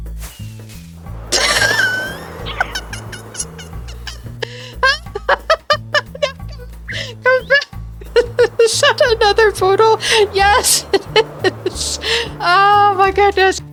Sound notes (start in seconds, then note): 1.2 laughter; 8.0 laughter